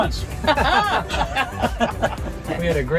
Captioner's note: both laughing